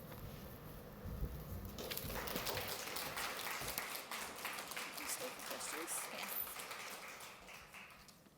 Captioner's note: applause